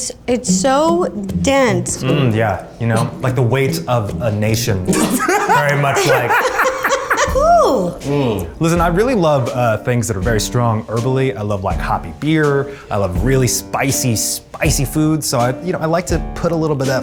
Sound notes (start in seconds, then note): 9.1 laughs